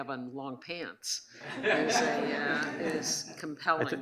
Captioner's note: audience laughs